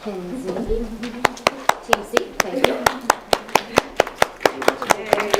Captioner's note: audience applauding